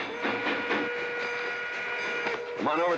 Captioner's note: train whistle blowing